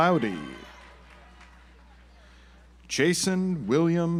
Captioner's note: audience applauds